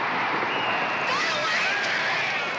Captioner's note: referee blowing whistle; shouting